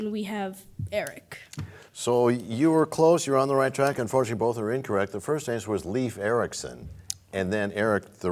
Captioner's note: none